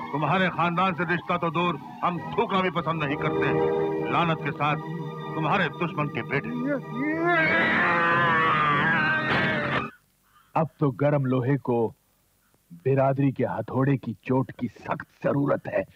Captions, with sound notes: 'We'd never dream of forming an alliance with you!' 'With malice, your enemy's sons!' (Grunts) It's the right time for the community to strike.